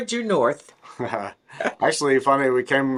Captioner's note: laughs